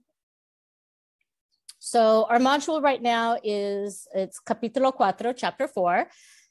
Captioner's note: Spanish